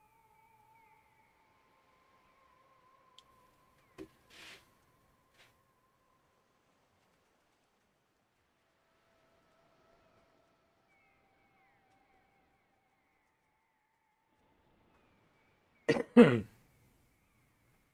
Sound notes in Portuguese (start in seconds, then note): 6.2 limpando a garganta